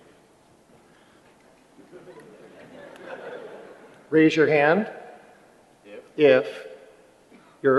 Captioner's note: laughter